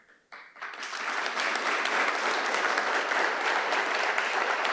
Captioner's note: audience applauding